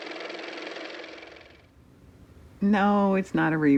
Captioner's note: car motor